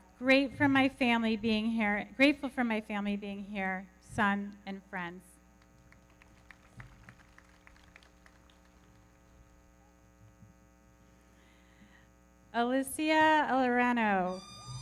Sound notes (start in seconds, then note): 5.6 everybody clapping